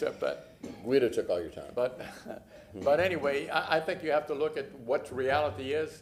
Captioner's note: beeping